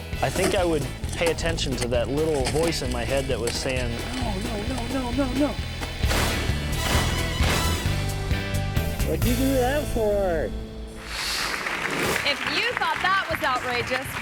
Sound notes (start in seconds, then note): 5.8 slab bangs; 11.1 audience applauds